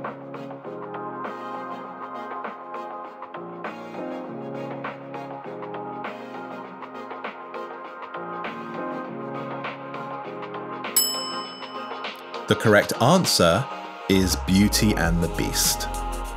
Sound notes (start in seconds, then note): 0.2 upbeat music; 11.0 bell rings